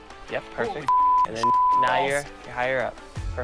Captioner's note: beep